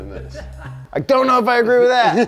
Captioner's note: background laughter